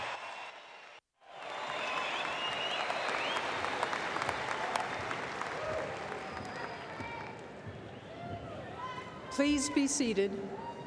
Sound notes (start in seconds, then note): 5.8 applause